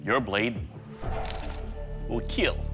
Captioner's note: blood squelches